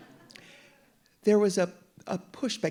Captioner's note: audience laughing